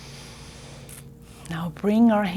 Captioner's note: deep breath